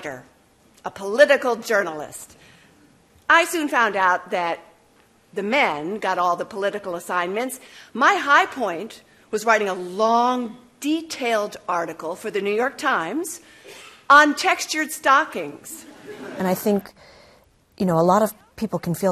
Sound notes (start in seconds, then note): 15.7 laughter